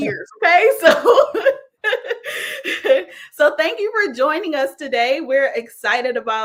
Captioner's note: laughs